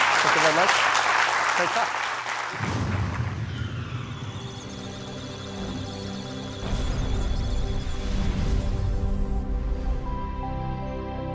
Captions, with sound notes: Thank you very much. Great talk. [musical tones] [electronic sounds of data]